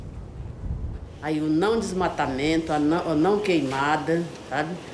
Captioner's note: Portuguese spoken audio